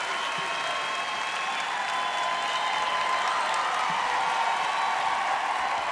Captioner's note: applause; cheering; applause